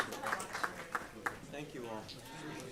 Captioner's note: applause